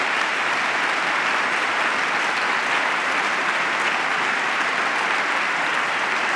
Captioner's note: applause